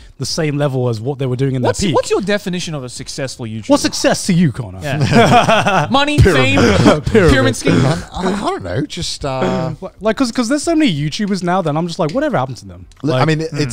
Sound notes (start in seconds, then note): 4.9 laughs